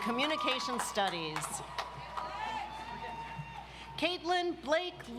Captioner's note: audience applauds